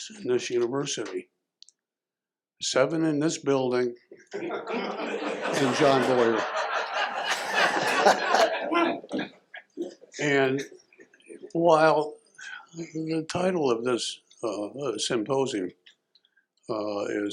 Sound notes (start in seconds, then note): 7.5 laughter